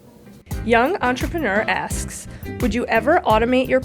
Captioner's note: voiceover